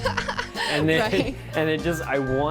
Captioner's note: laughing